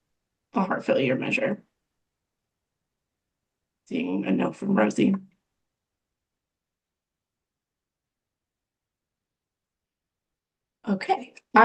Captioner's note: pause